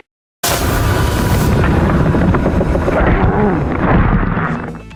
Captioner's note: spooky grunting